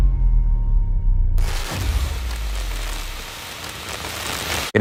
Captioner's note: static